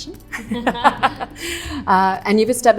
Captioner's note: panel laughing